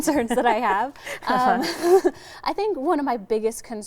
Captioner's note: both chuckling